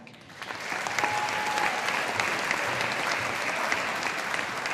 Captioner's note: audience applauding